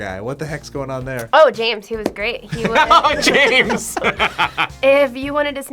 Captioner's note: laughs